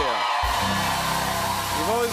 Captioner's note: cheers and applause